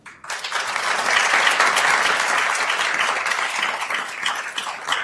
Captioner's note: attendees applauding